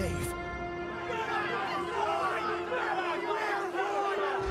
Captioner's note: crowd chatter